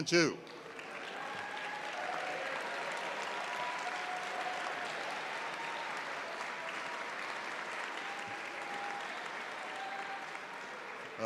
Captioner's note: applause